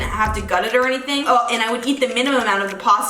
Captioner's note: gags